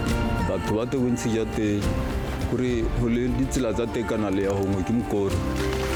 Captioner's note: speaker speaking in foreign language